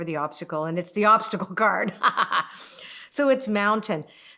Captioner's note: laughs